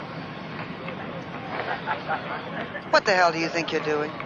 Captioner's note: people laughing